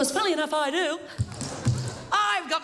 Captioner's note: tapping